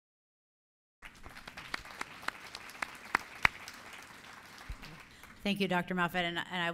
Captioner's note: applause